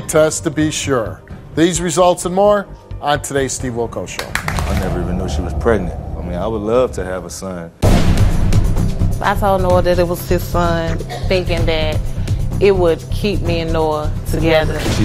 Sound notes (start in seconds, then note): 4.2 audience applauds